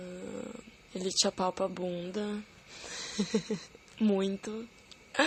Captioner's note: laugh